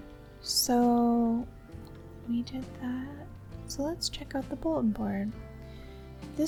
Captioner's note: quietly